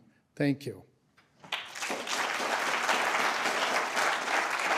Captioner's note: applause